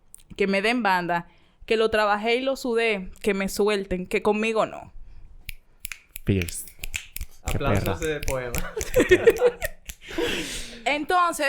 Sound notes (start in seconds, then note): 5.8 fingers´ snap; 8.2 laughs